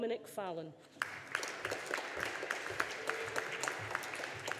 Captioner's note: audience applauding